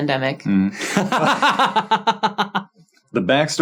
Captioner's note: laughing